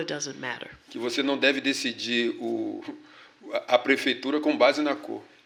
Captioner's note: speaking portuguese